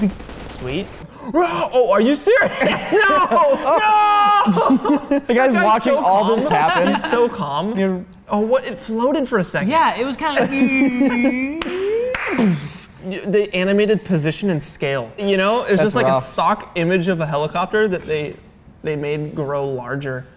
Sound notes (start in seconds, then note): 11.5 battle sounds